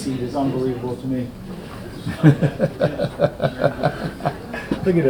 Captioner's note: Richard laughing